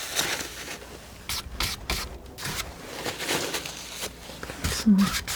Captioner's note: scratching